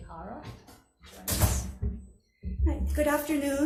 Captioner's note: door thuds